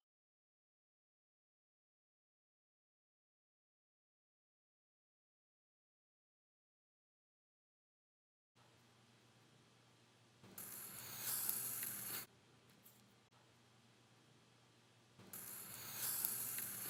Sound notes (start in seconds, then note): 10.6 pencil scrawls